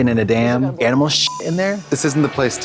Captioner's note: beep